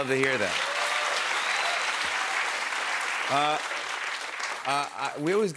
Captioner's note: cheers and applause